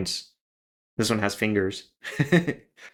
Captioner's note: laugh